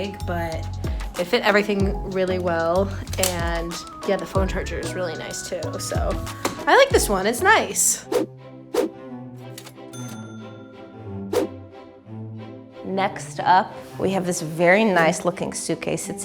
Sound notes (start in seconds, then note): 8.7 swoosh; 9.9 cash register dings; 11.3 swoosh